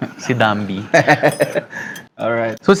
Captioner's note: laughs